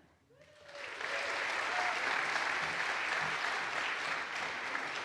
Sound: audience applauds

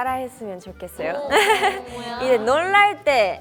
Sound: hahaha

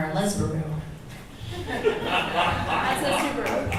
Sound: audience laughs

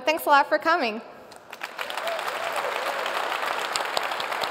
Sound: applause

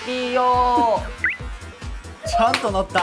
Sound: haha

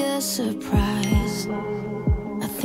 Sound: phone dings

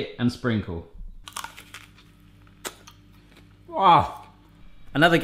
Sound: apple crunching

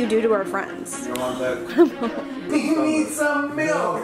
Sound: laughing

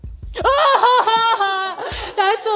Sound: fake Laugh

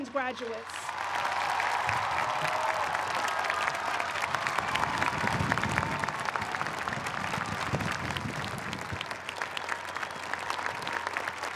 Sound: cheers and applause

